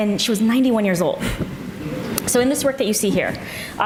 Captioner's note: audience murmurs